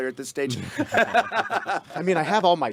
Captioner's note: group laughing